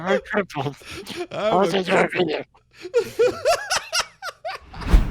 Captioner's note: laughing continues